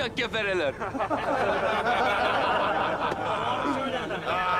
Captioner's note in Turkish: Gülme sesleri